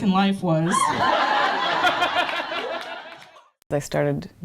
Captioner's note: laughter